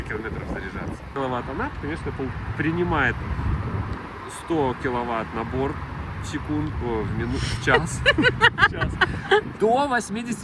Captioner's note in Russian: смех